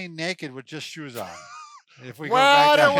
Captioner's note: laughing